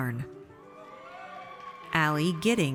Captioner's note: audience cheers